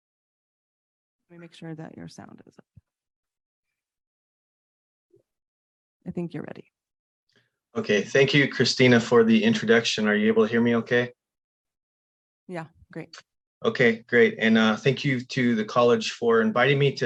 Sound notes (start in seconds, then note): none